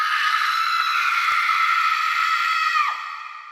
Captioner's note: horrific high-pitched scream